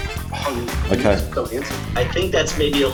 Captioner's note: sighs